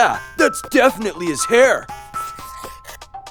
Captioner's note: pencil scratches on paper